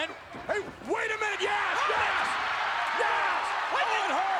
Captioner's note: spectators cheering